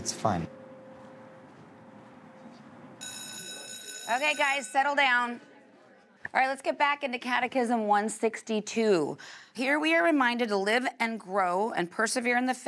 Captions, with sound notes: No, it's fine. [bell rings] OK guys, settle down. All right, let's get back into catechism 162. Here we are reminded to live and grow and persevere in the faith